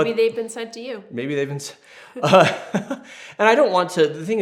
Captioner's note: laughs